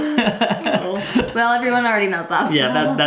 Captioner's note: laugh